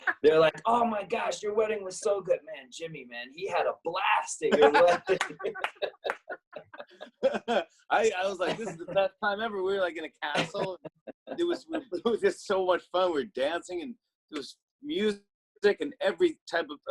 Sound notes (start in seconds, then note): 0.0 laughs; 4.5 both laugh